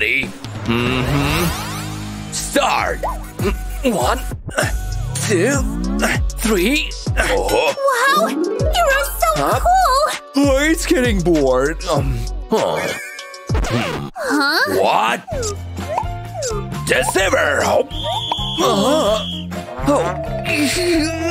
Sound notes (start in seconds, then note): 0.6 moaning; 17.6 whistles